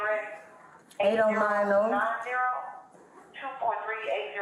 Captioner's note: radio chatter